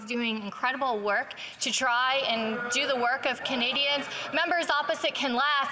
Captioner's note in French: voix de l'interprète